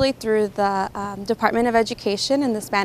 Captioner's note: none